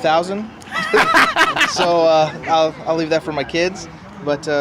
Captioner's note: laughs